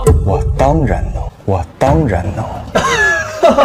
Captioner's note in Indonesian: batuk